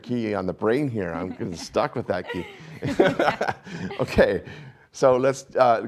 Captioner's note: laughs